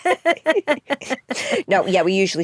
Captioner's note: both laugh